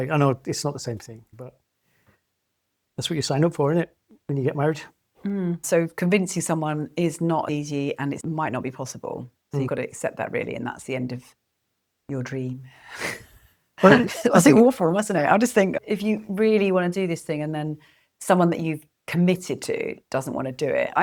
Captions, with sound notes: I know it's not the same thing. but, that's what you sign up for, innit, when you get married? Mm. so convincing someone is not easy, and it might not be possible. You've gotta accept that really, and that's the end of your dream. [LAUGHS] awful, musn't it? I just think, if you really wanna do this thing, and then someone that you've committed to doesn't wanna do it.